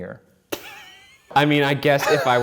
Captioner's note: laughs